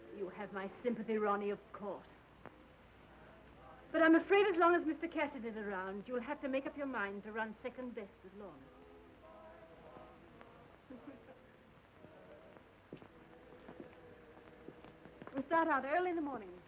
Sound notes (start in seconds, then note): 10.9 Lorna laughing